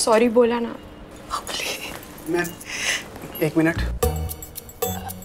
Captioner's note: Gauravi giggling